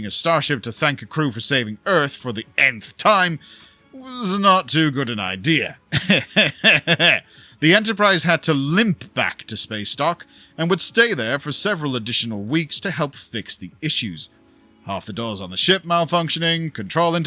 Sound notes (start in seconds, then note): 5.9 evil Giggle